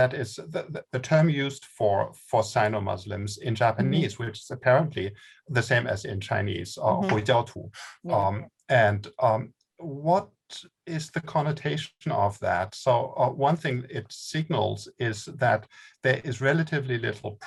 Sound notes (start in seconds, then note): 7.0 speaking in Mandarin